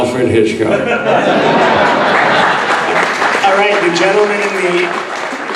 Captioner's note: audience laughing and applauding